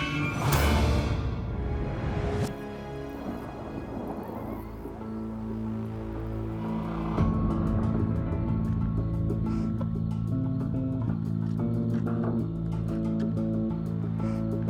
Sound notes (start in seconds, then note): 2.8 thunder; 5.3 eerie music